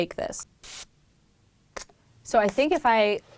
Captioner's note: click